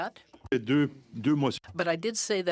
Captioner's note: speaking in french